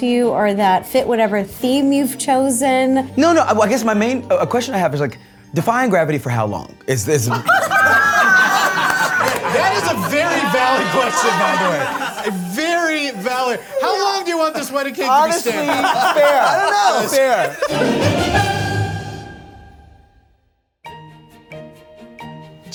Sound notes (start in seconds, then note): 7.2 judges laugh; 18.7 dramatic music; 20.8 light music